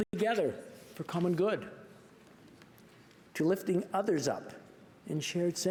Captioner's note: speaking French